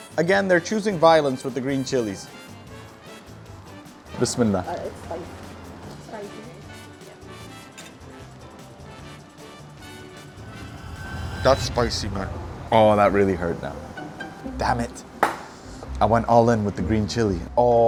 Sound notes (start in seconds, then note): 4.3 speaks Arabic; 7.0 upbeat music